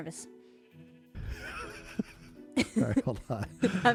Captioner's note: laughs